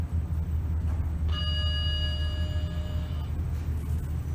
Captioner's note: ding